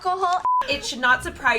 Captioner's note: beep